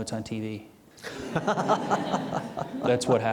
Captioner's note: audience laughing